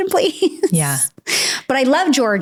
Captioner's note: laughs